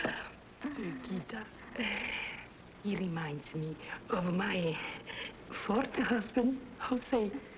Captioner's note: gasps